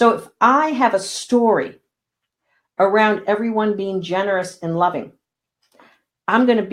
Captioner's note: none